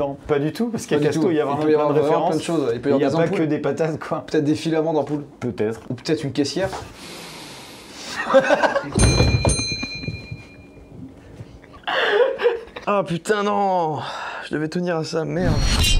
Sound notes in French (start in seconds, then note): 8.1 rires; 11.8 rires